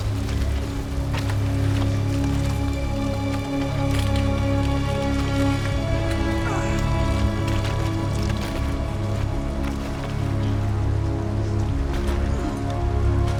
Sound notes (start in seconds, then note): 7.2 exertion